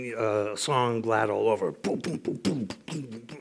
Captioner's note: imitates drums